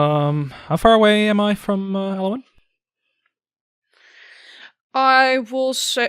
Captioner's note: sighs